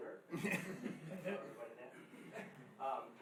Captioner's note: laughing